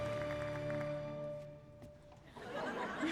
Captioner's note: chuckling